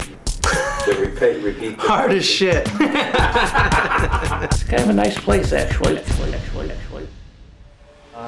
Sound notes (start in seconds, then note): 0.5 interviewee laughs; 2.6 interviewee and interviewer laugh